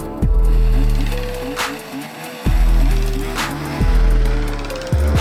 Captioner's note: engine starting